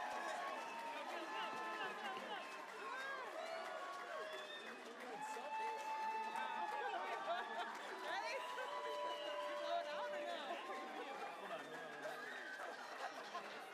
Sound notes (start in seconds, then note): 1.6 applause